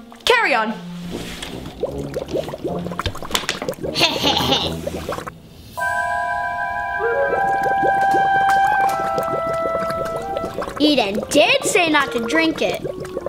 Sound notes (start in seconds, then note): 0.7 light suspenseful music; 2.8 liquid bubbling; 3.9 chuckles; 5.7 light suspenseful music